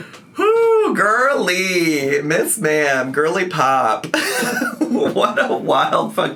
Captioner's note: laughs